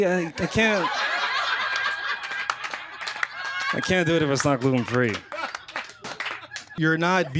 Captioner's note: laughter